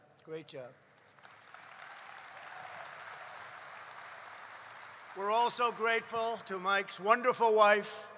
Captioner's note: applause